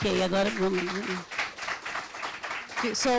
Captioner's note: audience clapping; speaking Portuguese; audience clapping